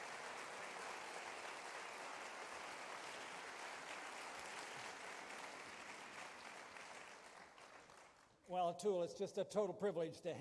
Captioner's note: applause